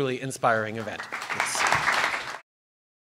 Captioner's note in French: Applaudissements